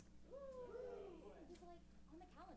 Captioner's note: cheers